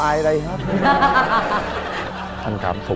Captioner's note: laughing